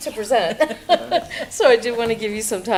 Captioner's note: laughter